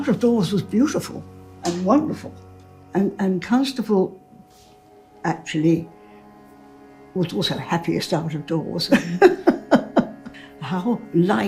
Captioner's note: laughing